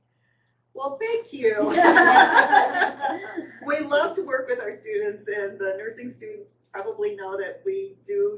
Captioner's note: loud laughter